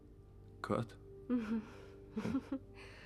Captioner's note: chuckles